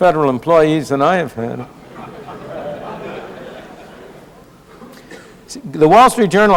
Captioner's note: laughter